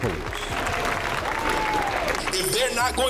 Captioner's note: crowd clapping